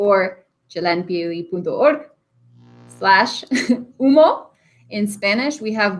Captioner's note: speaking in Spanish